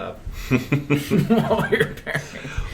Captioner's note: laughter